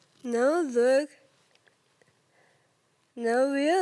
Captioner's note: soft breathing